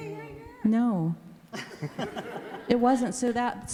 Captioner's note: everybody laughs